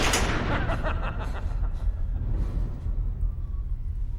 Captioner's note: evil laughter